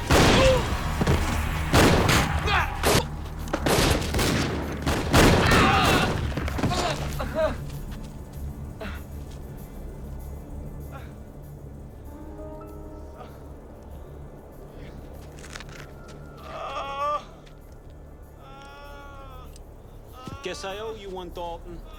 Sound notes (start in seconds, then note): 0.0 drug runner yells in Spanish; 0.0 gunshots banging; 5.2 drug runners groaning; 16.4 drug runners groaning